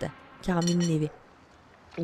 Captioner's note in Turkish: Köpek havlama sesi